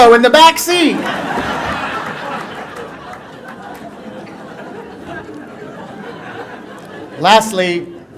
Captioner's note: laughter